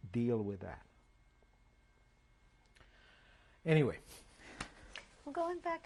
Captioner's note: pauses for 3 seconds